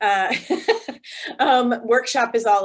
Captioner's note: laughs